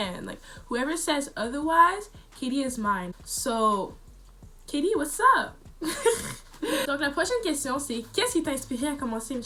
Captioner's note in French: rire